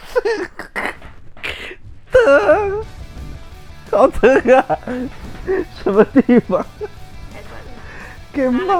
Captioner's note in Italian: risate